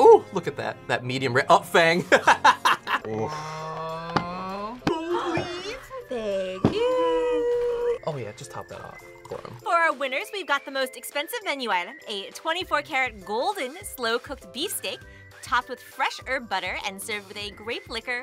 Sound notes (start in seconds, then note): 2.1 laughs; 6.4 gasps